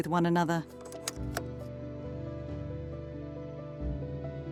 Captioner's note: slide clunking